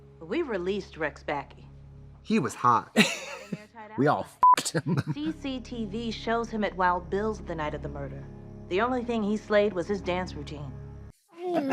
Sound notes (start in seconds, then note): 4.4 beep; 4.6 Katya laughs